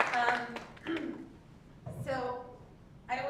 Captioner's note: applause; cough